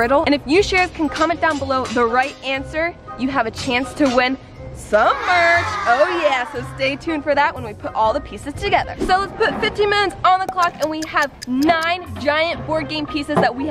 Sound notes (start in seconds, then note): 10.6 ticking